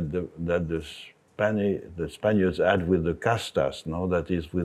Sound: speaks in Spanish

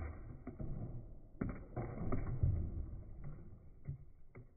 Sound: objects thuds

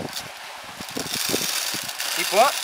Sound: grinding

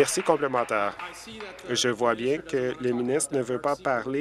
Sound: applause

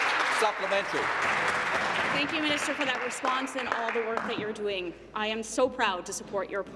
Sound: applause

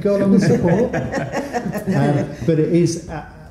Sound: light laughter

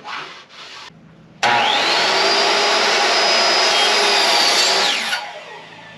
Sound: miter saw

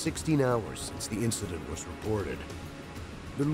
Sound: voiceover

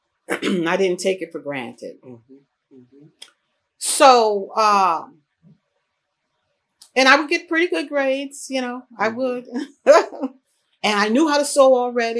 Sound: laughs

